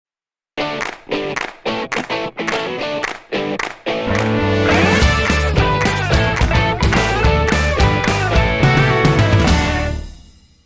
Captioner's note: claps